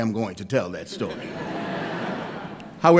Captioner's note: laughter